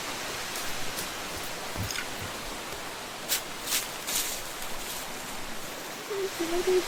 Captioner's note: steps on the grass